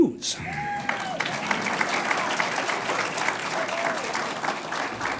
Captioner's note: audience applauds